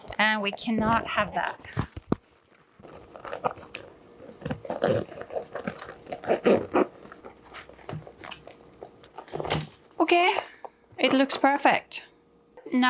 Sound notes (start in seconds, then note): 5.1 zip rasping